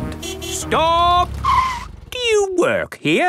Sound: tires screeching

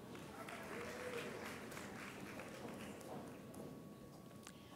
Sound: audience applauds

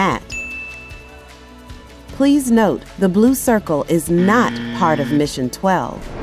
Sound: bell Rings

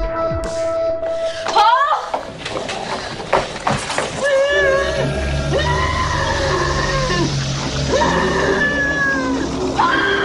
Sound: monster Noises; scream

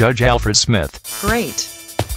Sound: sarcastically

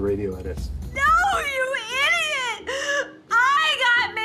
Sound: sobbing

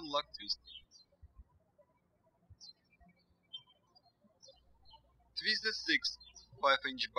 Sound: birds chirping

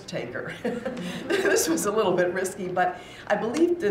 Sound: chuckles

